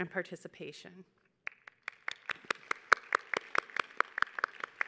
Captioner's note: audience applauding